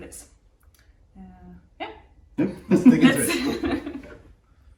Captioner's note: laughter